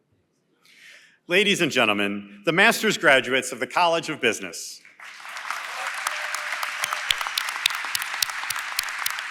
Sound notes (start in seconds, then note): 4.9 applause & Cheering